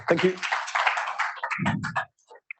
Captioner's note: applause